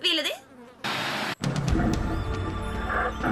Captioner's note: animal growling softly